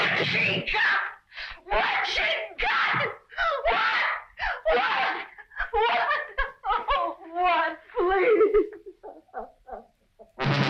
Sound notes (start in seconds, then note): 6.0 Linda crying